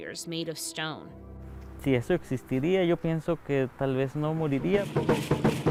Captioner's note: speaking in foreign language